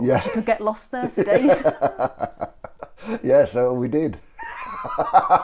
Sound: laughter

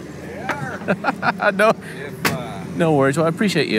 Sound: laughs

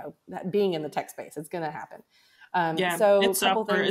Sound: faintly speaks

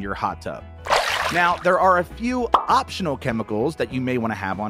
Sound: water splashes

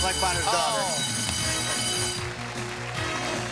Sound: bell

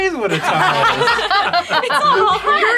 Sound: all laughing

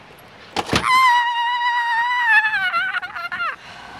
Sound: screams

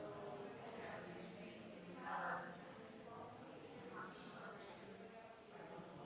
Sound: people chattering distantly continues

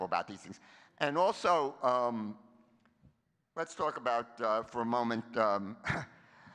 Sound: chuckles

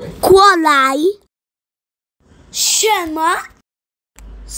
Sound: chinese

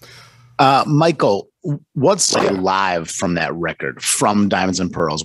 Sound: static

